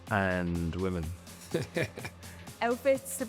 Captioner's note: laughs